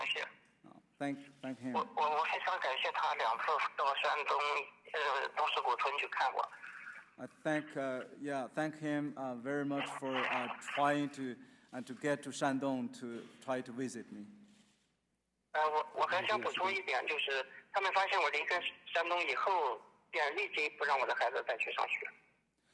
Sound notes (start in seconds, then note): 9.0 speaking English